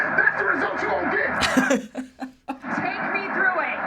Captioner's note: laughs